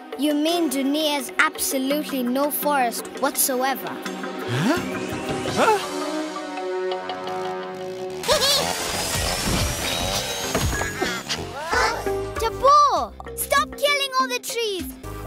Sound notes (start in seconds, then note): 7.1 chainsaws buzzing; 10.8 Bongalalas chirping